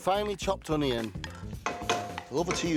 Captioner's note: spatula clanging